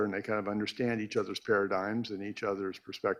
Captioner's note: none